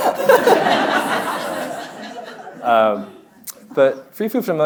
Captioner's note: audience laughing; laughing